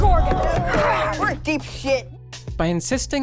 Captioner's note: grunting